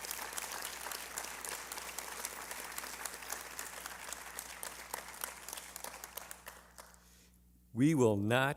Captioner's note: applause